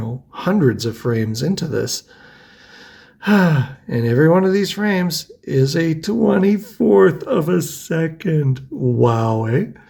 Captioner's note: sighs